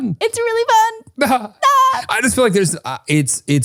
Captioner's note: both laugh